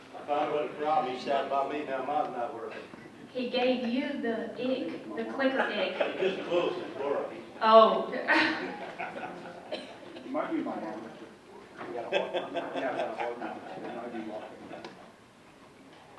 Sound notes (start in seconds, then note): 9.0 audience chatting indistinctly; 12.4 audience member laughing